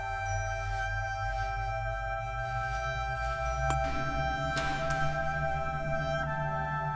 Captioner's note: dramatic music; footsteps